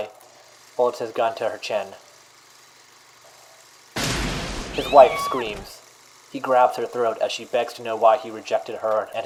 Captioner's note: gunshot